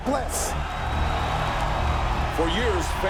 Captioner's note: cheers and applause